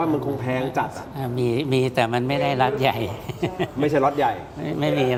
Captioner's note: laughter